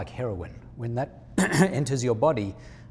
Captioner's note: clears throat